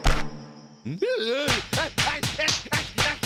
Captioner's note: groaning